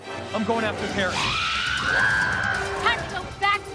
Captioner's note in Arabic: صراخ